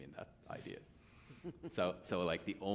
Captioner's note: laughter